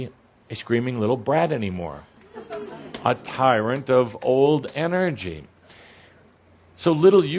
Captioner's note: some laughter